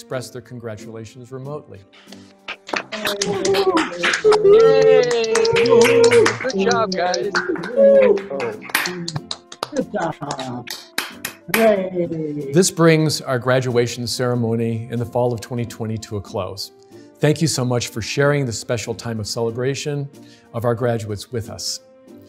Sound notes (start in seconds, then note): 2.8 everyone applauding and cheering